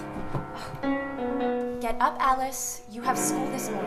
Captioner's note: sighs